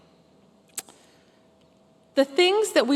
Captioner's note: pause